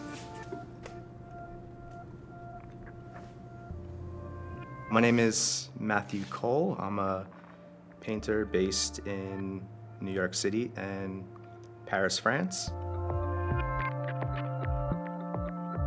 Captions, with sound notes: (paint brush strokes) My name is Matthew Cole. I'm a painter based in New York City and Paris, France. (gentle music)